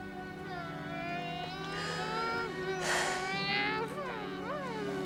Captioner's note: gentle music; boys imitating engines